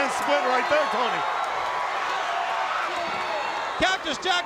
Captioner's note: crowd cheering